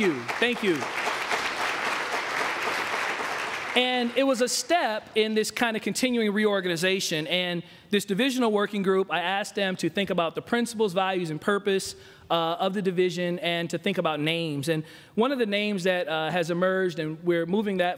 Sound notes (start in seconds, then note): 3.7 applause